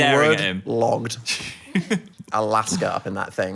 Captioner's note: chuckling